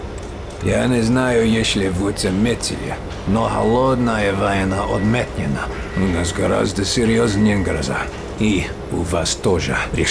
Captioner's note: in Russian